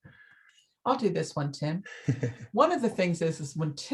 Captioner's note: laughs